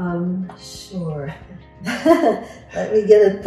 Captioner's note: laughs